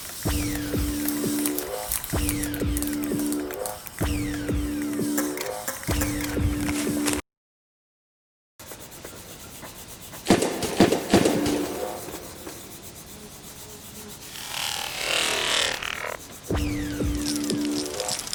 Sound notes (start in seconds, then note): 10.3 bang; 14.2 vibrating niose